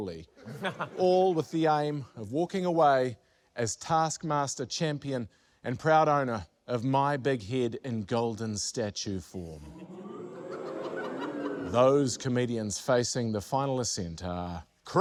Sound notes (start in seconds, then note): 0.4 laughter; 9.8 audience 'ooh's